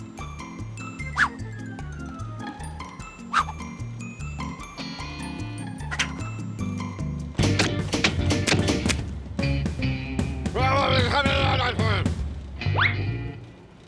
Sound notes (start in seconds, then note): 10.2 shouting